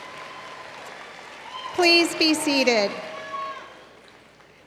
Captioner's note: cheers and applause